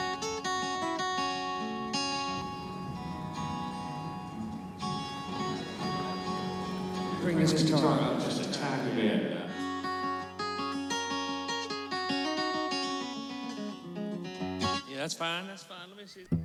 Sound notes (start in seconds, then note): 0.3 guitar music; 5.1 crowd chattering; 9.4 guitar playing